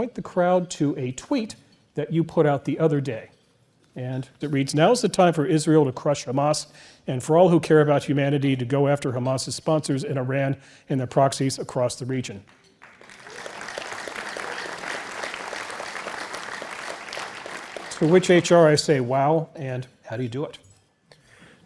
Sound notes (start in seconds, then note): 12.4 applause